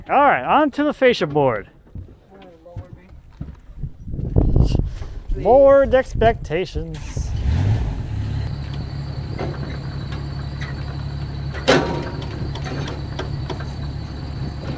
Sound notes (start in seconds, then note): 6.9 engine revving; 7.2 metal clanging; 11.4 hammer banging